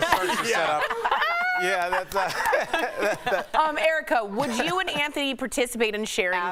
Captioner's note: laughter